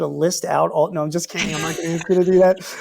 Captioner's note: laughs